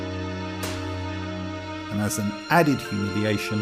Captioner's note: slap